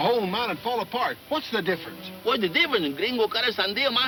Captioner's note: speaking in foreign language